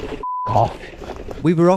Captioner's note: beep